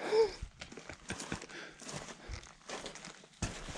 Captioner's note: laughs